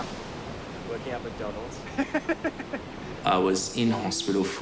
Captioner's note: laughs